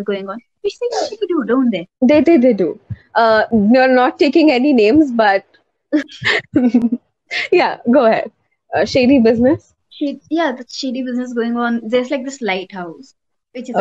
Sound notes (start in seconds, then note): 6.1 laughs